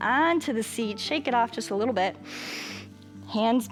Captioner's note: inhales